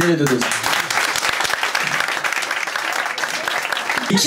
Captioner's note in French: applaus public